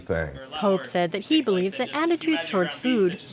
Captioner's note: voiceover